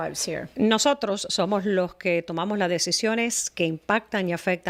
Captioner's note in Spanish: Hablando ingl\s